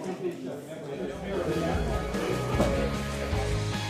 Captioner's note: sounding gavel